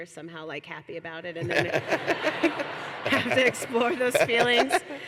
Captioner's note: laughter